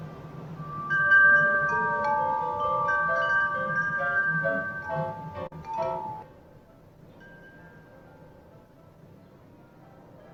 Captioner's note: louder interior windchimes